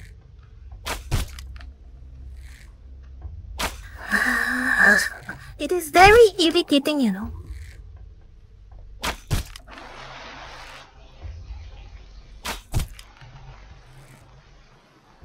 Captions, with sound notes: *Grumbling noise* It is very irritating you know...